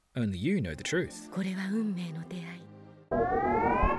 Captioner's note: speaks galactic language